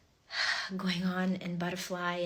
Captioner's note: exhales